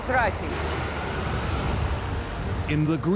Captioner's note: wind howling